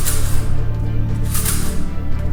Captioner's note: metal rattling